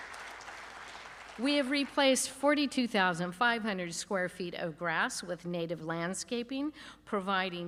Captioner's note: applause